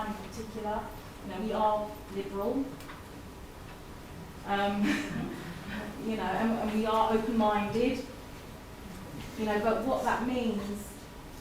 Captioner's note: chuckles